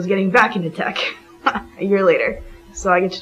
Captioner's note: laughs